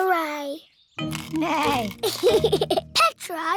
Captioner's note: neighs and giggles